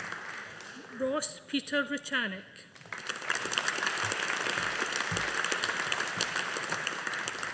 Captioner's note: audience applauding